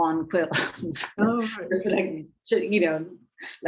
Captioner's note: woman chuckling